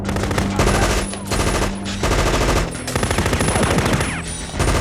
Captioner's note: machine guns firing